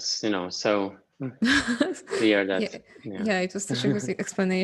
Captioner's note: laughs